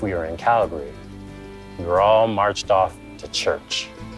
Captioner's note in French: gazouillis d'oiseaux